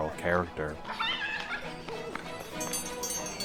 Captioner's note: child laughs; upbeat music; bell ringing